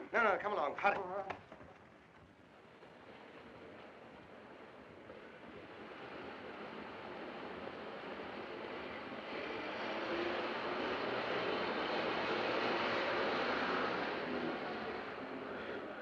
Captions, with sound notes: - No, no, come along, hurry. (city street sounds) (bus rumbling by)